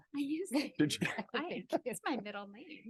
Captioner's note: participants laugh